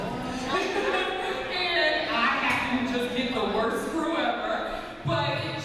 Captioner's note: laughs